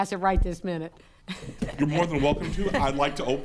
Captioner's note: laughing